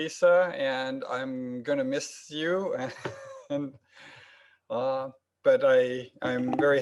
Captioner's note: laughs